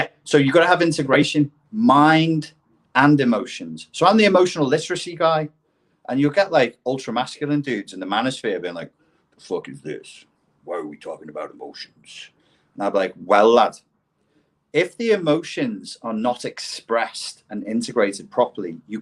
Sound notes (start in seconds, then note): none